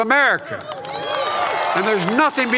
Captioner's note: applause